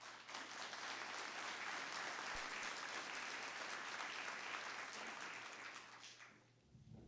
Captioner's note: applause